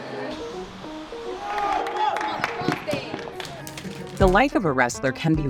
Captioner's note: group cheers